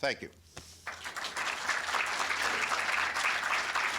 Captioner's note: applause